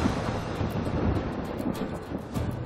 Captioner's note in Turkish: Gök gürleme efekti